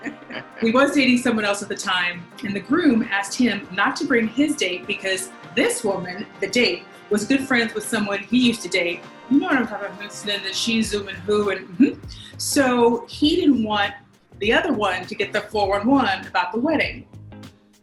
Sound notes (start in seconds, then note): 0.0 laughing; 9.4 host mumbling